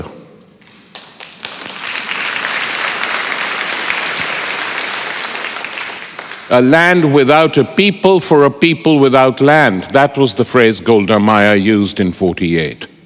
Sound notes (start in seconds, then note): 2.5 applause